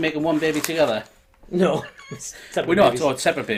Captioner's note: laughing